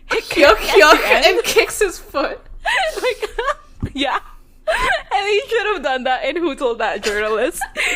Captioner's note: laughs; both laugh